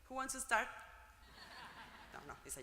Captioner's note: laugh